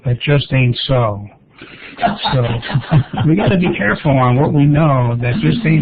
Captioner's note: laughter